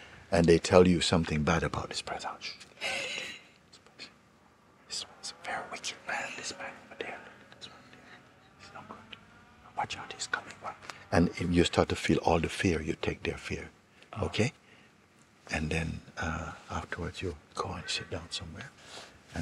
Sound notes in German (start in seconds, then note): 3.6 flüstert